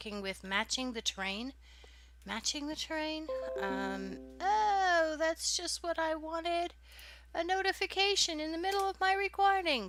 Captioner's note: chime sounds